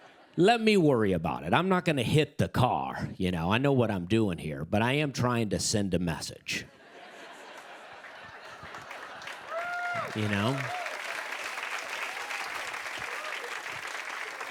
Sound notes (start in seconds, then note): 6.6 laughter; 11.8 cheers and applause